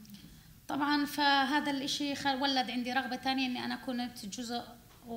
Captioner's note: speaking arabic